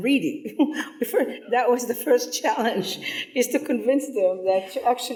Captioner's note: chuckles